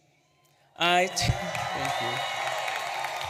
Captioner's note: audience applauds and cheers